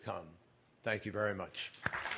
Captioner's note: applause